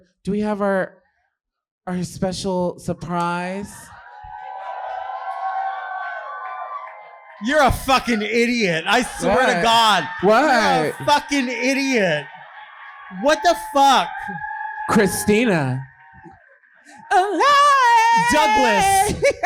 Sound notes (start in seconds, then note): 4.3 audience cheering